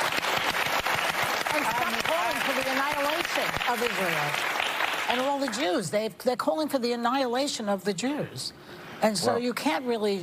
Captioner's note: applause